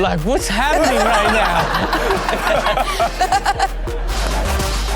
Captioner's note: everyone laughs; upbeat music